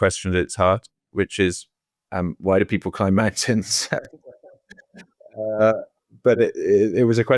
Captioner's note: laughing